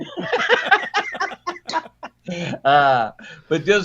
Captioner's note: everyone laughs